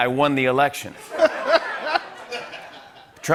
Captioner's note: laughter